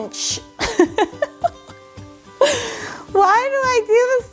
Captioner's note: laughs